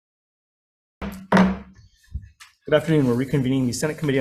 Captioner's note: gavel thuds